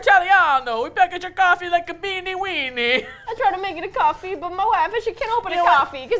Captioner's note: attempting Italian accent; attempting Italian accent